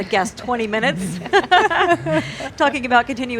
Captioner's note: laughing